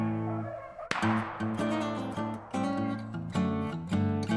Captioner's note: gun fires